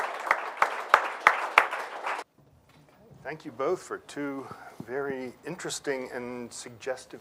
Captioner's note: applause